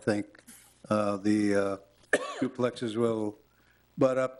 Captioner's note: woman coughs